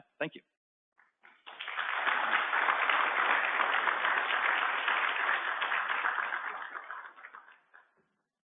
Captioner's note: applause